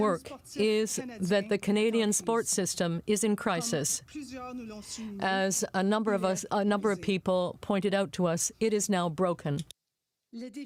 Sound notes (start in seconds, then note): 1.3 speaking french